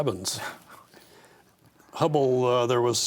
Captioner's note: chuckles